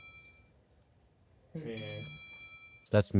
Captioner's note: cell phone dinging